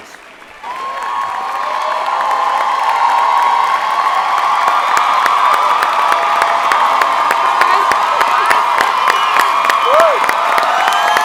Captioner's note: applause and Cheering